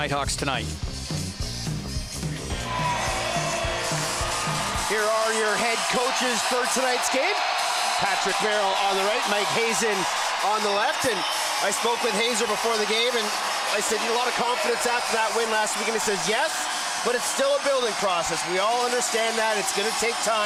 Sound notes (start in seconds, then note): 5.8 cheers